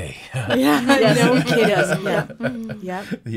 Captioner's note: laughing